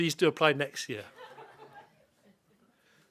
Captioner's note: laughter